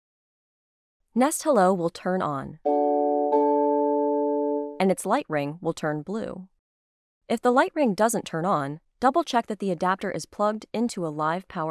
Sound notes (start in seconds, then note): 2.7 chimes